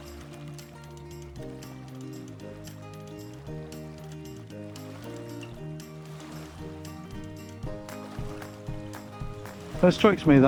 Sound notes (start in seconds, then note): 1.9 water splashing